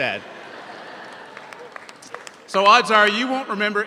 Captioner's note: audience laughs